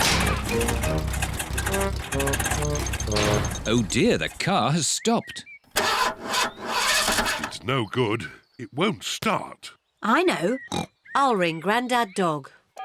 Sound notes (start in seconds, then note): 0.0 engine sputters; 5.7 engine sputters; 10.5 snorts